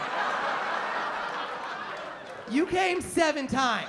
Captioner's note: laughter